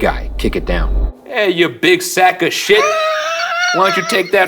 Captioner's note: laughing